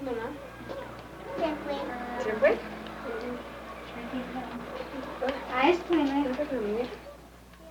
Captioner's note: women conversing in Colombian Spanish